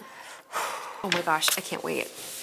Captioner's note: exhales